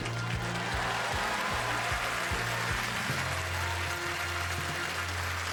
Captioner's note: applause